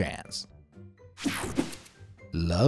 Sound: image whooshing

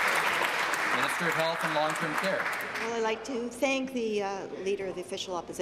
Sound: applause

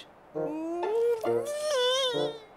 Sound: moaning

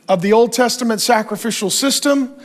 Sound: none

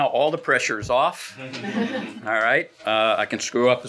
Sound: laughing

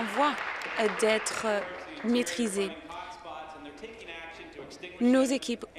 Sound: applause

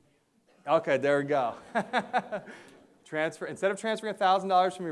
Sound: laughs

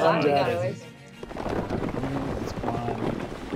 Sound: crumbling

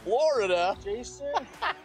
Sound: laughs

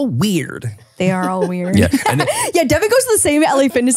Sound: laughing

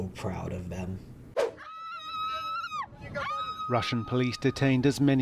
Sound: woman screaming

